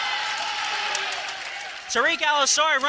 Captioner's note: cheering